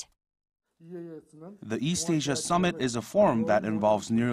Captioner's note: Korean